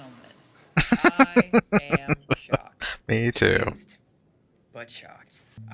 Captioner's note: laughing